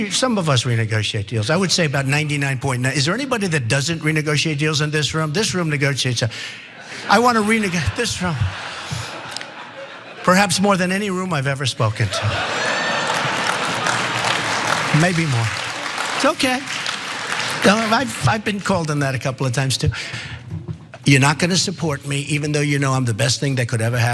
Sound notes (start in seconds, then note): 12.5 applause